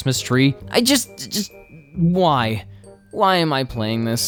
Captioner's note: stammers